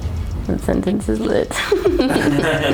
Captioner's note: laughs